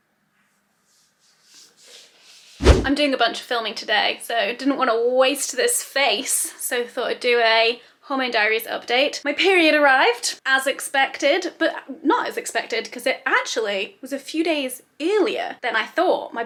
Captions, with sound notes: (video swooshing) I'm doing a bunch of filming today so didn't wanna waste this face. So thought I'd do a homemade diaries update. My period arrived as expected, but not as expected. 'Cause it actually was a few days earlier than I thought.